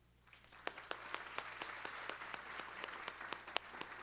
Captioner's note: applause